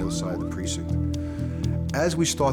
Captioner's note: inhales